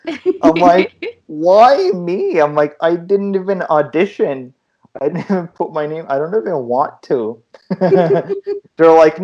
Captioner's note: laughter